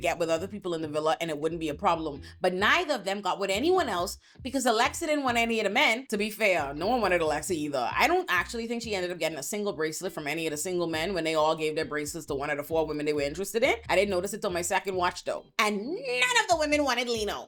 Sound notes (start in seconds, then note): none